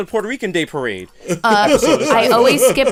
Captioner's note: laughter